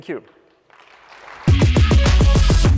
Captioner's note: applause